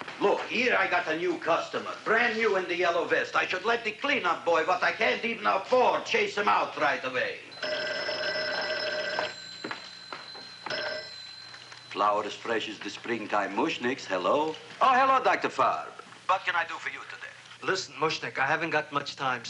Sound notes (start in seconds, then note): 7.5 telephone ringing